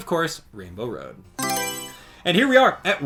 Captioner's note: Mario Selection Sound